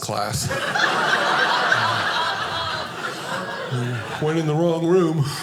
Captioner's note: audience laughing